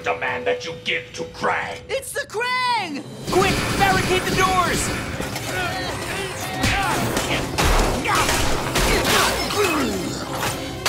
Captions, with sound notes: that you give to Kraang. It's the Kraang! Quick, barricade the doors! [grunting]